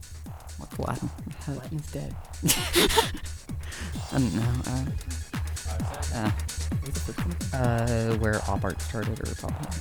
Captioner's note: whispering